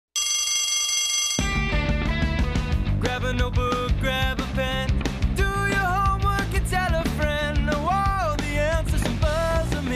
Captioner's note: bell rings